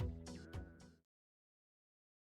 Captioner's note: silence